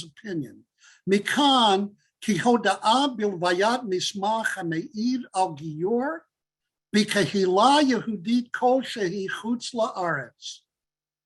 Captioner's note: Hebrew